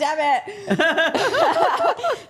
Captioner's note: all laughing